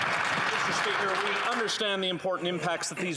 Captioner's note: applause